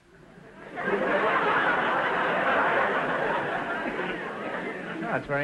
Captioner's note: audience laughter